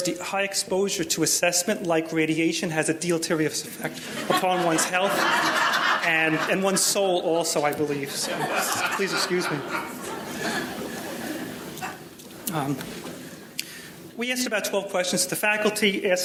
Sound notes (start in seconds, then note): 3.9 audience laughing